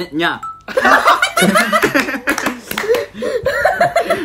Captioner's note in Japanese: 大爆笑